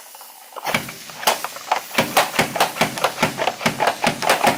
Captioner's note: chicken sizzling; mandoline thumping